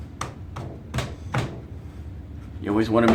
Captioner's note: tapping